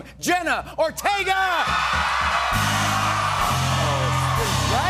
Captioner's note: cheers and applause